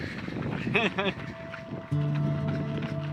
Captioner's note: laughter